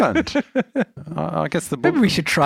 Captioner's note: laughs